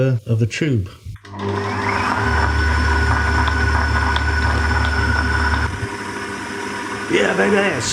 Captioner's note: machine whirring